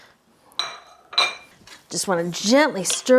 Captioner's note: plate clanging